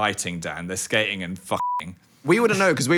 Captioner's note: beeps